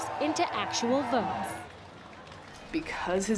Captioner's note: crowd cheering